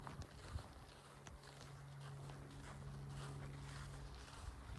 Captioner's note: footsteps